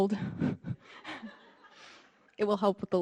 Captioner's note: audience laughing